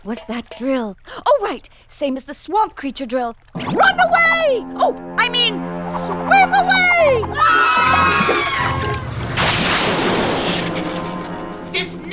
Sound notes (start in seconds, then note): 7.3 screaming; 9.3 electric crackling